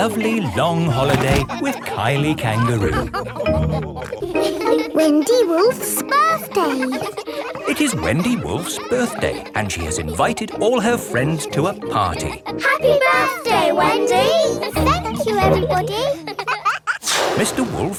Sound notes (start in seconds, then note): 0.0 all laughing; 6.5 kids laughing